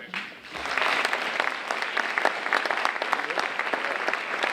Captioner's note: audience applauding